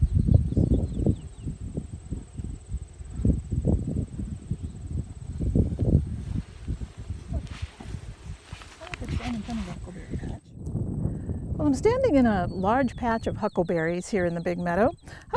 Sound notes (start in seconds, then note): 1.6 sound of wind blowing